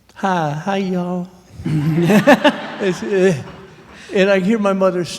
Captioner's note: laughter